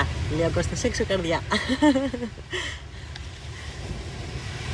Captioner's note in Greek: γέλια